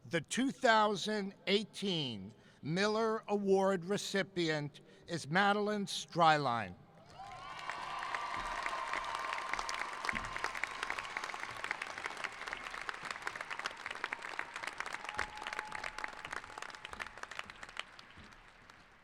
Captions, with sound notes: The 2018 Miller Award recipient is Madeline Streilein. (cheering) (applauding)